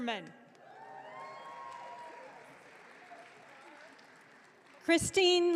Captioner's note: audience cheering